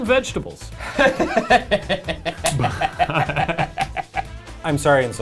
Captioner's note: laughing